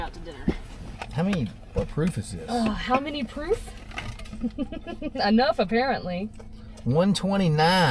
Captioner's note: laughing